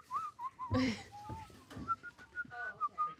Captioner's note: laughs